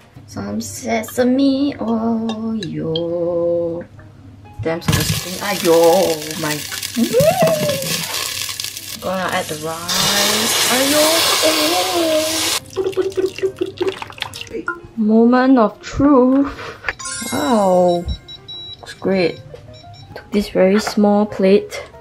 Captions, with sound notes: Some sesame oil. *shrieking* Gonna add the rice. *ploop ploop ploop ploop ploop* Moment of truth. Wow! Looks great. Took this very small plate.